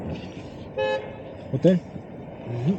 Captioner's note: horn